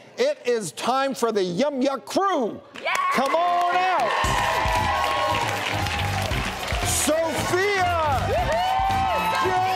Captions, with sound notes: It is time for the Yum Yuck Crew. Come on out. (audience applause) (jazzy upbeat music) Sofia! (woman cheering)